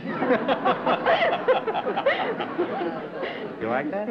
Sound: laughter

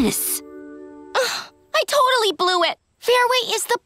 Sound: sighing

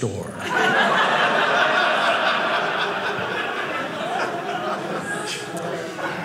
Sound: audience laughing

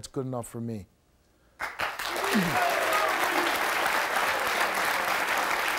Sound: audience applauds

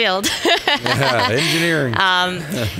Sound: laughing

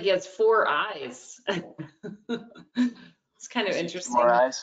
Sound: loughs

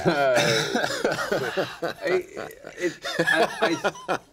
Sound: laughing

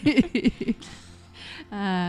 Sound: laughter

